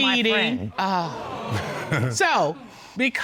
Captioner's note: audience exclaiming